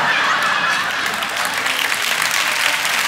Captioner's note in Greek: χειροκρότημα